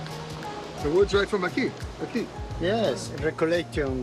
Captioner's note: speaking Spanish